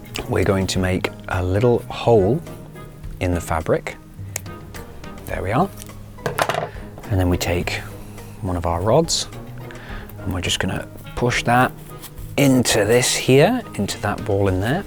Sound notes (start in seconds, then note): 6.2 scissors clatter